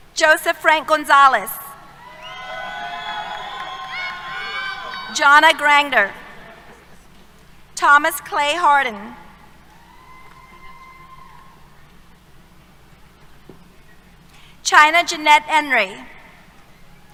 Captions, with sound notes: Joseph Frank Gonzales. [ Cheers ] Jona Granger. Thomas Clay Hardin. Chyna Jeannette Henry. Mary Hicks.